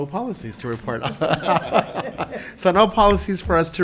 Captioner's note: members laughs